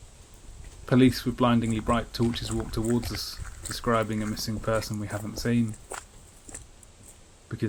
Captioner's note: crunch of feet on gravel